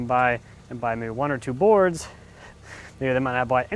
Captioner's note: chuckles